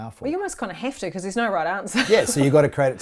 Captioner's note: laughs